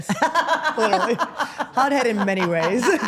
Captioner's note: Steph laughs